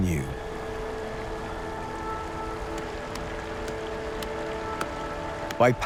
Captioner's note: water running